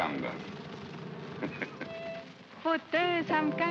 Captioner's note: chuckles; music plays & singing in German